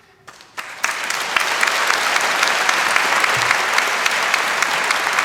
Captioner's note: applause